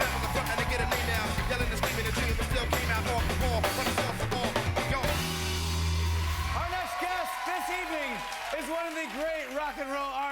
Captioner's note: cheers and applause